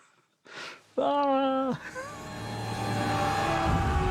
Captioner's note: yells